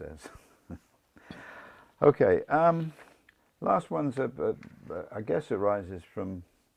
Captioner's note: laugh